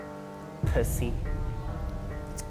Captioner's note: thud sound effect